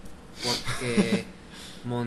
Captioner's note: laughing